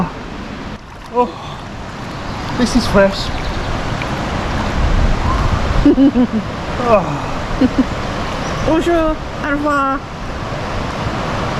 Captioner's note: laughs; laughs